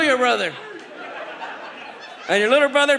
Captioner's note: audience laughs